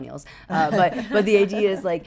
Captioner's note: laughing